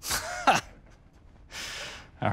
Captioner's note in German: lacht